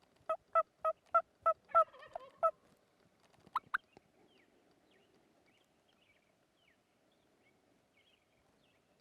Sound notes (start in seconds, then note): 1.7 turkey calling